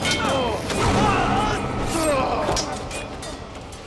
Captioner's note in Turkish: Bağırıyor